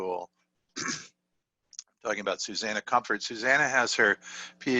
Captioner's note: cough